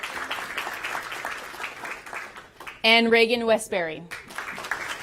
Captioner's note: applause